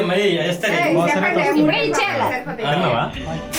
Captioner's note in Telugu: నవ్వు